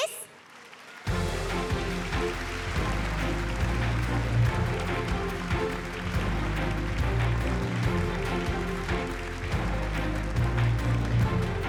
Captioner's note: applause